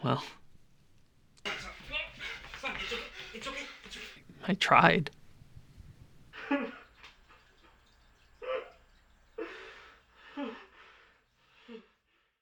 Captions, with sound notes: Well... ...I tried. (Gabe sobbing)